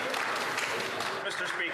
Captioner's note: some Applause